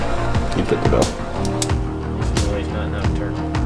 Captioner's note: pen clicks